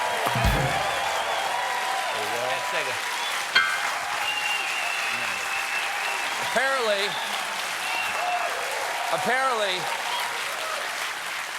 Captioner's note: cheers and applause